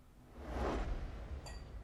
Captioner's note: whoosh transition sound